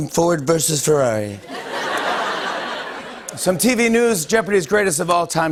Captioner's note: laughter